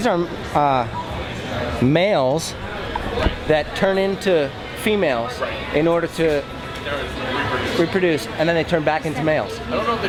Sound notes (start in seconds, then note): none